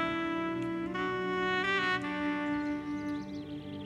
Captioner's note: Kissing